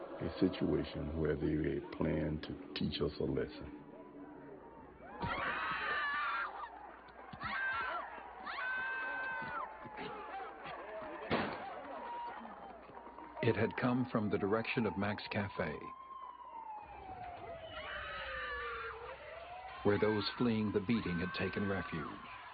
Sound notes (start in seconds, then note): 5.0 screaming; 11.2 gunshot; 15.9 sirens and screaming